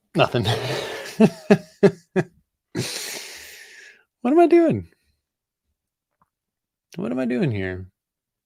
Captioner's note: laughs